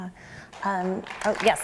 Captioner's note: applause